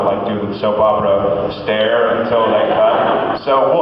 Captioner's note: laughs